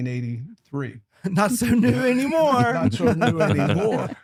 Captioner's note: laughter